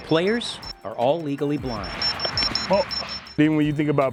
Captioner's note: alarm beeping